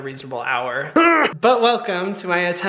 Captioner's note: Hyram growling